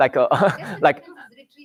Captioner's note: laughs